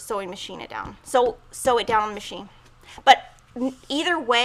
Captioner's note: drum hands on table